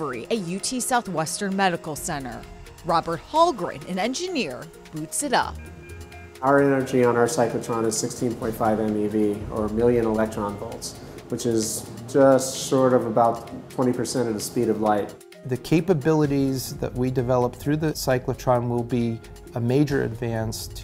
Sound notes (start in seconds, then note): 5.5 beeping